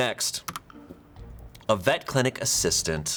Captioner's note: button clicks; quirky intriguing music